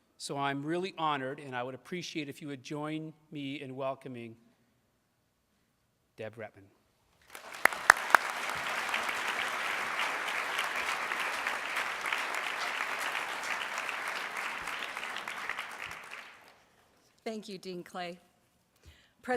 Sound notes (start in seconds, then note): 7.3 audience applauds